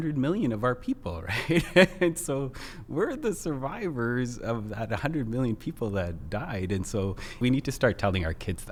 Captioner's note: laughs